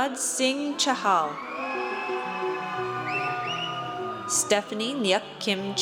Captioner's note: audience cheers